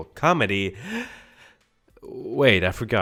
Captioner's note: gasps for air